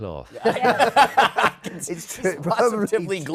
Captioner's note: laughter